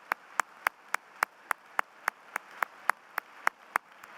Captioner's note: applause